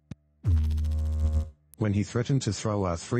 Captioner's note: electrical noise